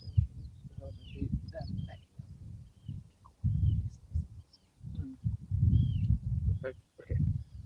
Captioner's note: indistinct chatter